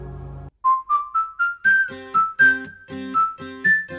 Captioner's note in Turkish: ıslık çalar